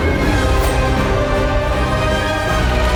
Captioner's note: blade whooshes; dramatic music continues